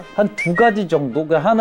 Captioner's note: talking